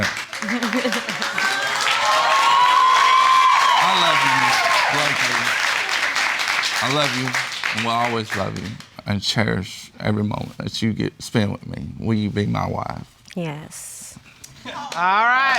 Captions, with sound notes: Do I have to get down? (LAUGHS) (AUDIENCE EXCLAIMING) I love you, Ms. Blakely. I love you and will always love you. And cherish every moment that you get to spend with me. Will you be my wife? Yes.